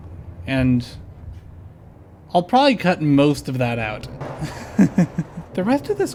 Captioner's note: chuckle